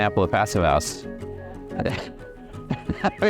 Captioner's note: laughs